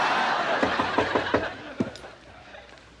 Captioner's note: knocking on door